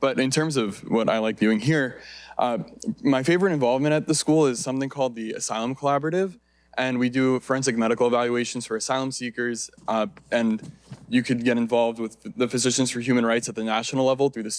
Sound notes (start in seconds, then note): none